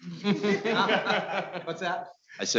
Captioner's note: laughing